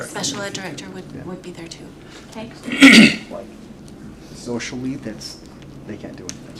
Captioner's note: clears throat